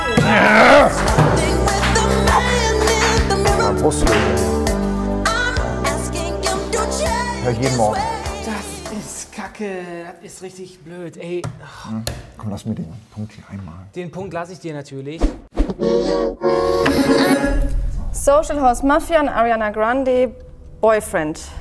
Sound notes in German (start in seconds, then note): 15.9 Mechanische Stimme